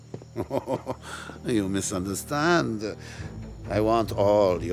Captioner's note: laughs